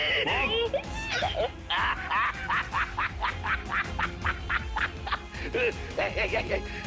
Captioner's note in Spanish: Risas